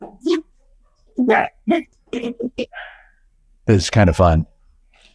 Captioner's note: garbled cooing